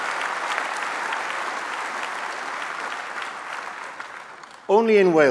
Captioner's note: applause